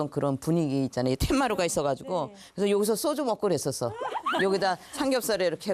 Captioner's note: ㅎㅎㅎㅎㅎㅎㅎ